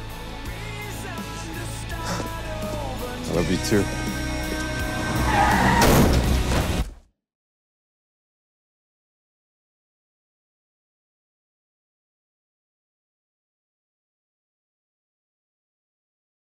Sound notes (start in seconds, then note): 4.4 tires squeal; 5.8 thud